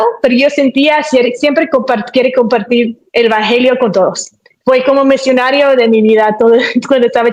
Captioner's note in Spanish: none